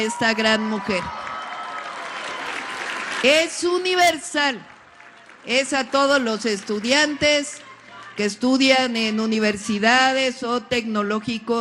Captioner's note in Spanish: aplausos